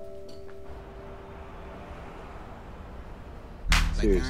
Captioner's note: traffic humming